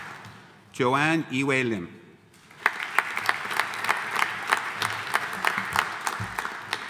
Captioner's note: audience applauding